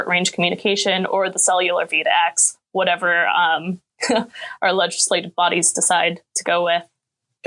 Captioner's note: chuckling